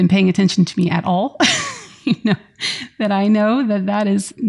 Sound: laughs

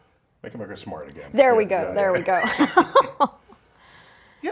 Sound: laugh

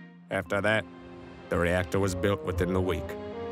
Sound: none

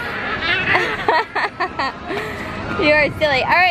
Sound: laughs

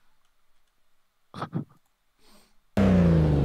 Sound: confused but understanding laugh

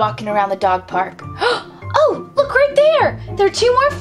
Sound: gasps

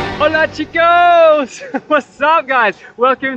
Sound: speaks in foreign language

